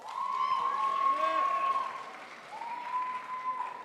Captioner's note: crowd applauds